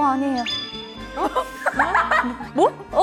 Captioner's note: laughing